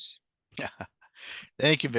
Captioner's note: chuckles